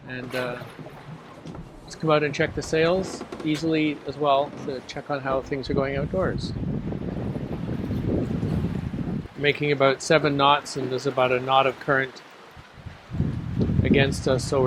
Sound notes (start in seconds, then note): 6.7 wind blowing